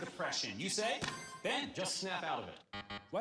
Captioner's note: buzzer buzzes; buzzer dings